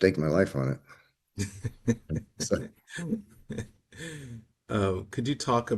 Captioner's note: laughs